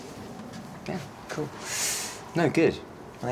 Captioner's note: inhaling sharply